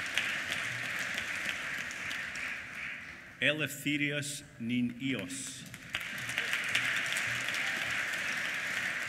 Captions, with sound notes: Eleftherios Ninios. (APPLAUSE)